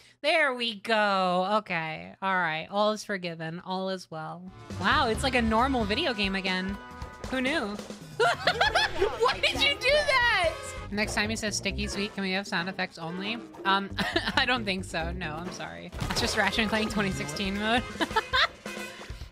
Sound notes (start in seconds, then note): 8.2 yelling; 13.9 laugh